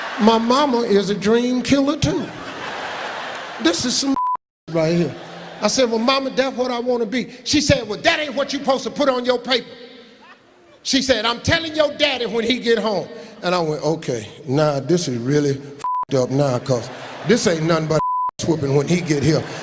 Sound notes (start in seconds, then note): 2.4 laughing; 4.1 beeping; 15.8 beeping; 18.0 beeping